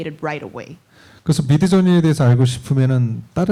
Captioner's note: speaking korean